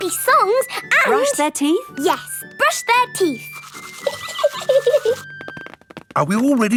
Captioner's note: giggling